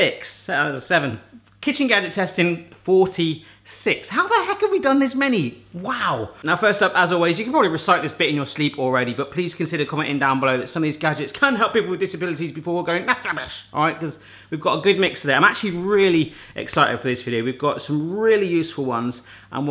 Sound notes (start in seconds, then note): none